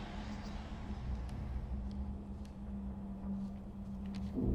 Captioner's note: eerie music; voices whispering